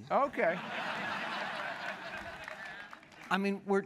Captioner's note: laughter